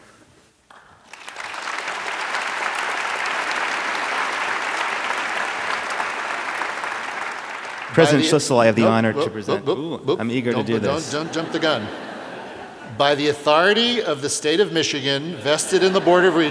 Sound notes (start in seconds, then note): 0.6 applause